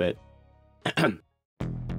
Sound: ahem

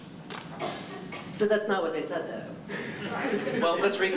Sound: laughter

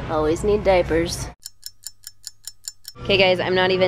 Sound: clock ticking

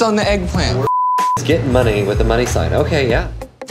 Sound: beep

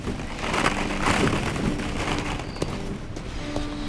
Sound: sounds of ballpit balls

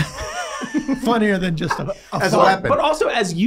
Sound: both laughing

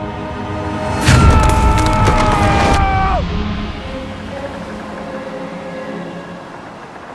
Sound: trees cracking; screaming

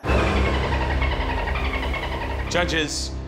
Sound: chimes tinkling; dolphin singing

